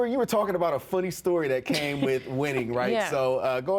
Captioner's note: chuckles